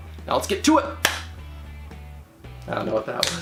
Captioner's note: hands smack